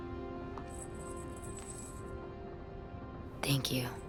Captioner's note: bracelet clinking